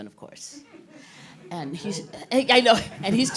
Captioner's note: all chuckling